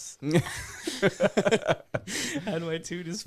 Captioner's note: laughing